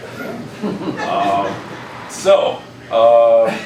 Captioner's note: laughing